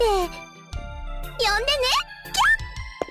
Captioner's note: squee